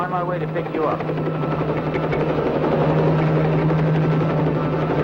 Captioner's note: helicopter roaring